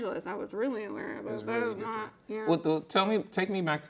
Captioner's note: speaks gibberish